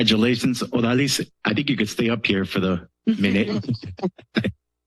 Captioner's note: laughters